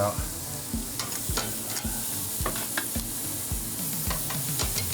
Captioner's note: steak sizzling